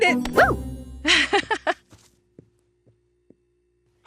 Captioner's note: laughter